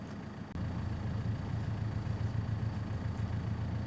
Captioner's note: truck whirring